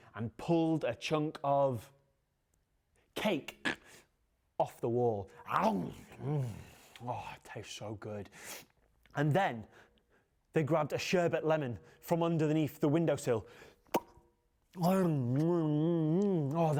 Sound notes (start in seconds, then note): 5.6 grunts; 13.8 lip smacks; 14.8 moans